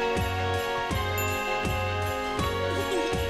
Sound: ding!; chuckling

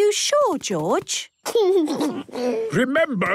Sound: George snorts; giggles

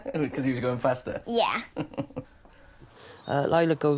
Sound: laughing

